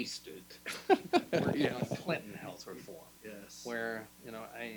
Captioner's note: laughing